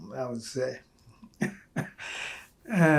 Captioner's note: laughing